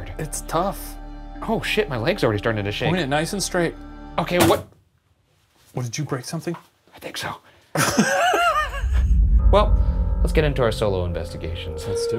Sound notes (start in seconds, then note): 5.0 object thuds; 7.7 chortling